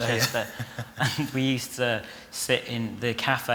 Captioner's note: laughs